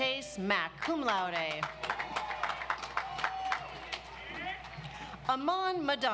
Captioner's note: audience applauds